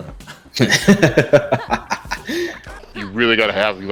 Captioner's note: laughs